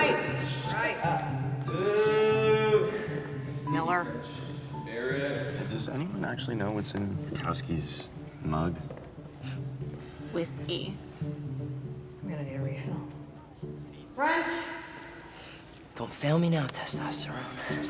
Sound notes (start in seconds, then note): 1.7 Brody shouts